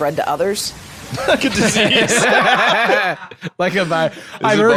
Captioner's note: laughing; laughs